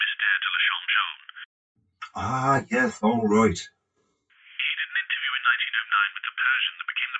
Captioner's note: on phone